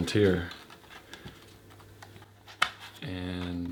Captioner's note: scraping and click